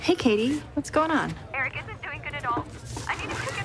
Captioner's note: Katie on phone